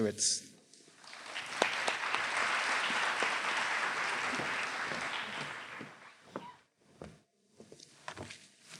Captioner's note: applause